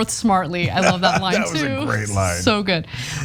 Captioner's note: laugh